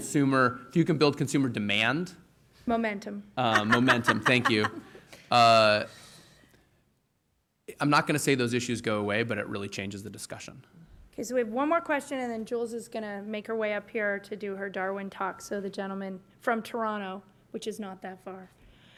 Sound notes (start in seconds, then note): 3.4 laughter